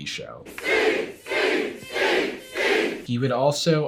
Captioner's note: crowd chanting "Steve"